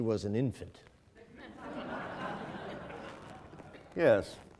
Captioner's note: laughing